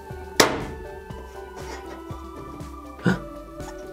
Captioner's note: clay thuds; gasps